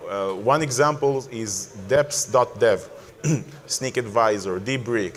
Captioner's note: clears throat